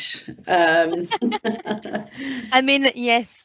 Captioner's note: laughter